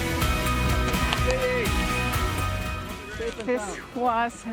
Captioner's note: man claps hands